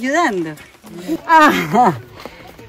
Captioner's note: laugh